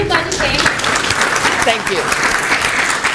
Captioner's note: clapping